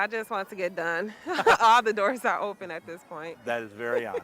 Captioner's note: laughing; both chuckling